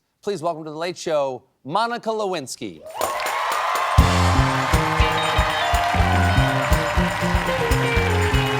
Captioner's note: cheers and applause